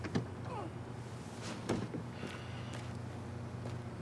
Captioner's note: Jim groaning softly